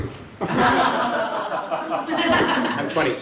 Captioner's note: audience laughs